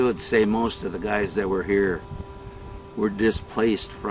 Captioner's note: voiceover